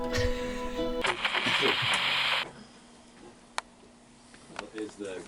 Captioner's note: static crackling